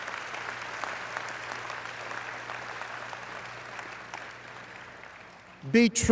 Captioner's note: applause